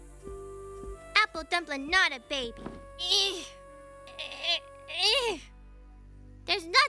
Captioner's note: grunting